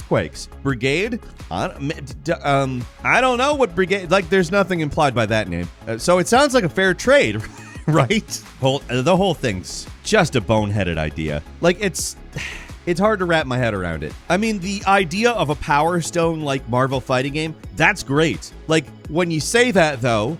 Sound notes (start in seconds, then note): 12.3 sighs